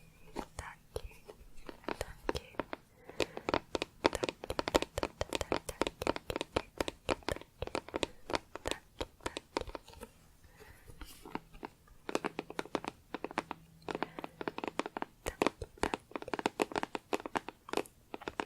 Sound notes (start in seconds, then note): 11.2 tapping on plastic; 18.2 tapping on plastic